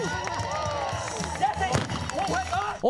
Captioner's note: cheering